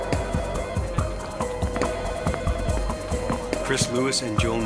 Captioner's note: suspenseful music; phone ringing